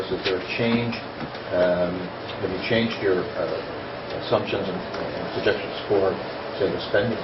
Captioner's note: reporter talking